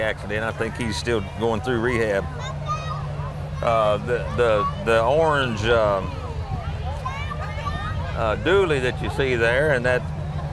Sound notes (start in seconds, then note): 3.2 engine revs; 3.6 chattering continues